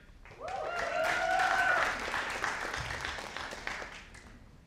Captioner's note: audience applauding